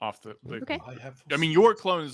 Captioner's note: murmurs